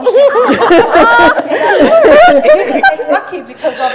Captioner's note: group laughing; speech drowned out by laughing